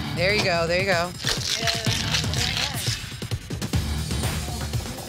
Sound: upbeat music; mixer rattling

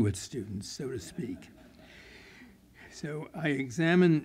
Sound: laughter

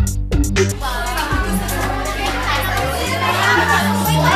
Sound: indistinct chattering

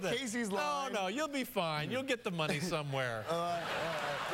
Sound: laughter

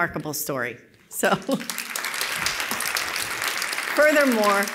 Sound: applause

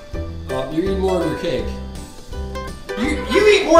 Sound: voiceover

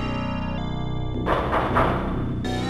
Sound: knocking

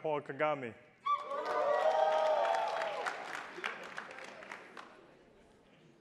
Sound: attendees applauding

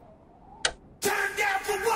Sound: click

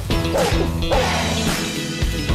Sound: dog barks; uplifting music

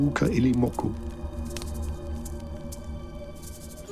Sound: fire crackling

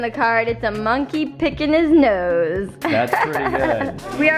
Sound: laughs

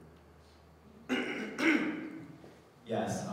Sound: throat clearing

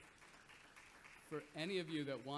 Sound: audience applauds

